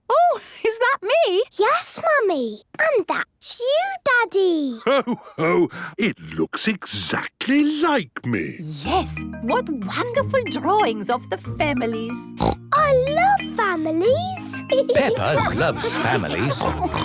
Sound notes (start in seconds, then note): 12.4 snorts